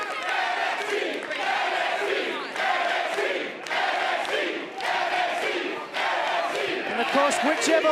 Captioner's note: fans chanting